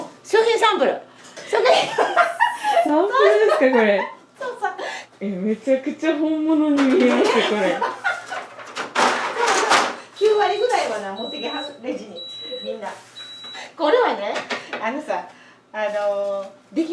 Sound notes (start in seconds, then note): 13.4 laughs